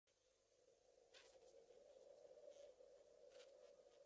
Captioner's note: wind blowing